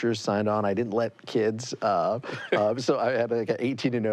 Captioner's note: laughs